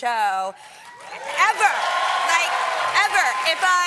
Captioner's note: cheering